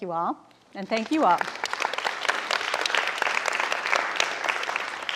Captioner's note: audience applauding